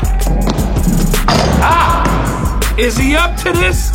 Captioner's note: dunk sound